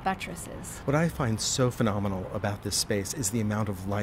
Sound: voiceover

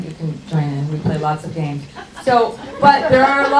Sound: audience laughs

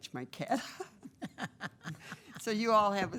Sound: members laughing

